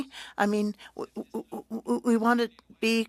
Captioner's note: speaking French